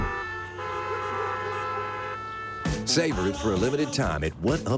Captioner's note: cars honking